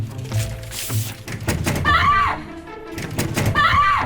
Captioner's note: bang, bang, bang